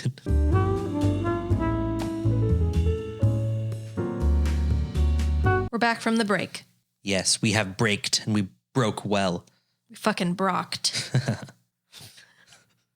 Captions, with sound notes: (upbeat music) - We're back from the break. - Yes, we have braked and we broke well. - We fucking brocked. (laughing)